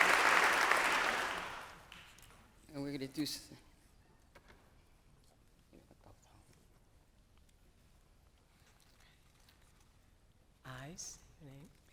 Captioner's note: applause